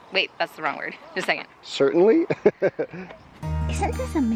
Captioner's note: laughing; quiet music